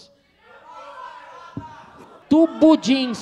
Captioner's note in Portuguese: plateia dá sugestões